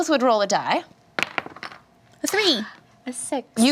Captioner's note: dice roll